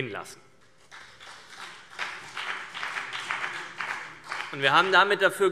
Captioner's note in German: Beifall BÜNDNIS 90/DIE GRÜNEN